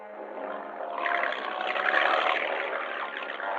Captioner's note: engine revving